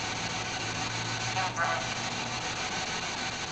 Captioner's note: RADIO "embroil"